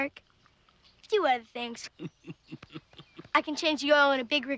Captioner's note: mechanic laughing